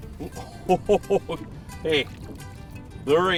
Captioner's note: laughing